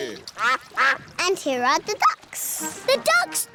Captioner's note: quacking